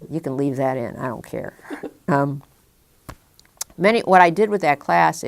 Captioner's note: chuckle